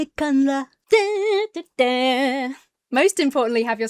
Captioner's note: hums "YMCA"